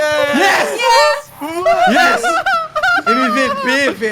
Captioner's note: laughs